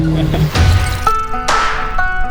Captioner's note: mechanical chirping; upbeat country music